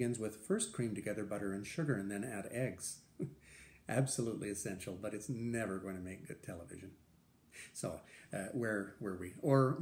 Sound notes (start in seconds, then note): 3.2 laughter